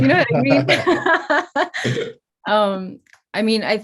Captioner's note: both laugh